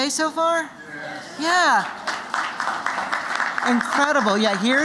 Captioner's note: �applause�